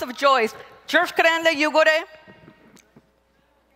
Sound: speaking Zapotec

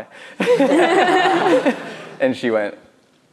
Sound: laughs

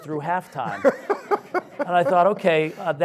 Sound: audience laughs

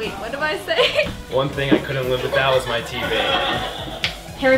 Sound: laughing

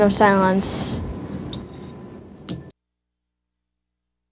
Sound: bell ringing

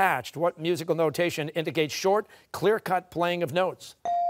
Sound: none

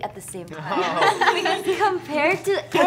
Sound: laughs

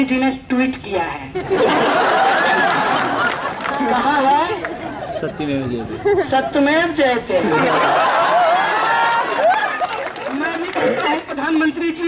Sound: laughter

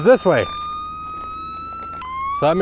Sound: machine squealing

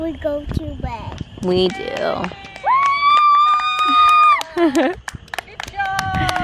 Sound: cheering

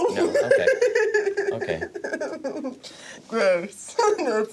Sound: laughs; chuckling; laughs

